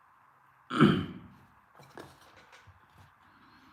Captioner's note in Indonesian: berdehem